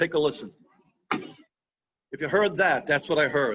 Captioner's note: foot stamp